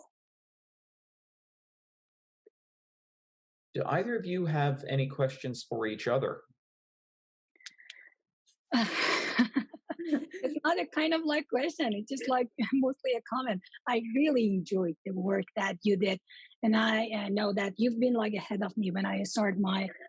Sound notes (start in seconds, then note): 6.4 both Laugh